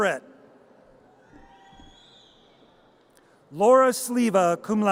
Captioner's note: audience cheers